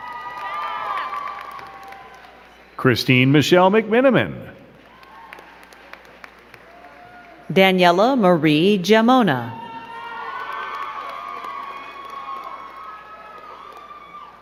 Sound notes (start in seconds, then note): 0.0 crowd cheering and clapping; 4.5 crowd clapping; 9.5 crowd cheering and clapping